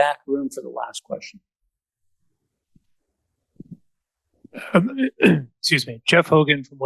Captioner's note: coughs